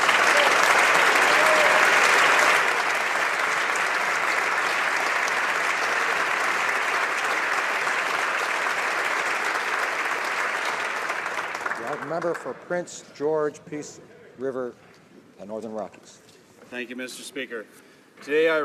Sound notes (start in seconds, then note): 3.8 applause